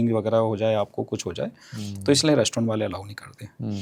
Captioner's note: nasal voice